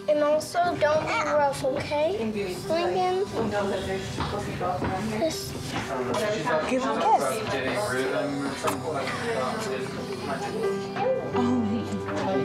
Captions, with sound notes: - And also, don't be rough, okay, Lincoln? (people chatting) - Give him a kiss. (soft music)